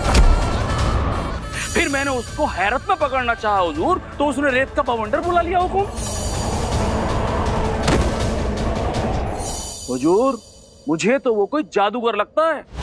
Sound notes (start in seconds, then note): 7.8 thud